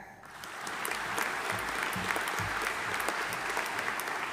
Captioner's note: audience applauding